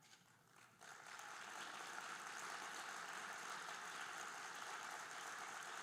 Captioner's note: audience applauding